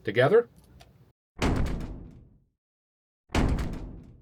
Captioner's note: door slam